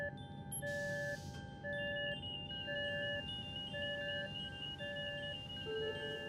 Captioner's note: alarm sounding